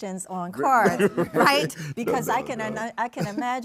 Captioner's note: laughs